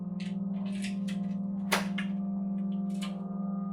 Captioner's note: clicking